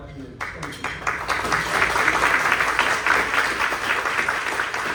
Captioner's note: clapping